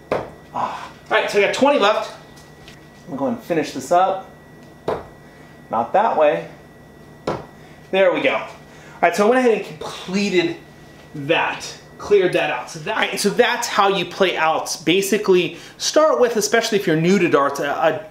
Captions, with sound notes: (thuds) (gasps) Right, so you have 20 left. We're gonna finish this up. (thuds) Not that way. (thuds) There we go. All right, so I completed that, cleared that out. So that's how you play "Outs." Basically start with, especially if you're new to darts,